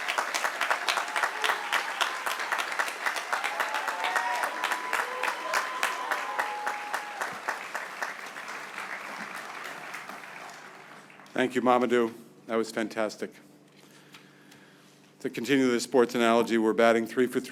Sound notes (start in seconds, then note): 0.0 applause; 5.8 cheers and applause